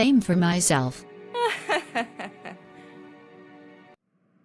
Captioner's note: laughs mischievously